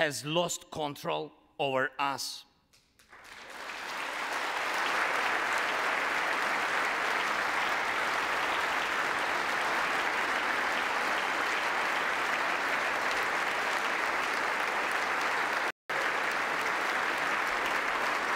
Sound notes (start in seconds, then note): 6.2 applause